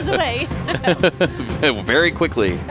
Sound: laughing

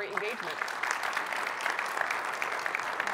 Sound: audience appluading

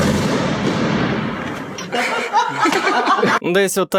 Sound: the presenter and people in the background are laughing

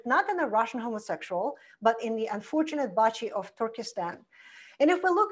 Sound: foreign language

